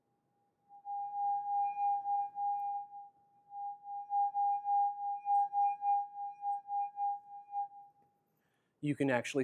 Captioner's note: high pitched sound